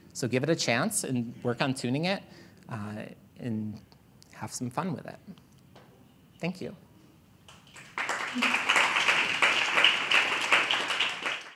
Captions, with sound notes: So give it a chance and work on tuning it and have some fun with it. Thank you. [APPLAUSE]